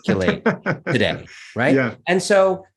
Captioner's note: laughs